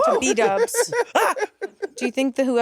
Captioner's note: laughing